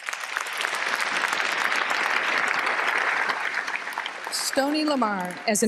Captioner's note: applause